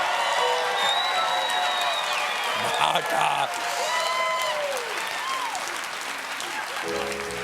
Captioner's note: cheers and applause; piano riff